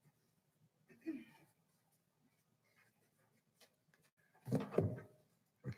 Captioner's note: clearing throat; banging